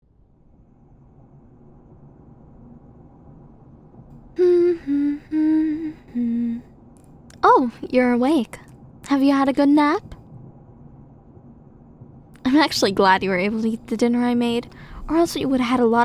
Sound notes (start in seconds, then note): 4.3 car Ambience; 5.6 humming